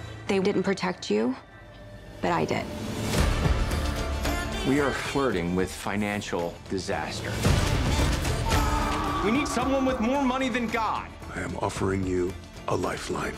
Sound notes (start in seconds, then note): 8.3 yells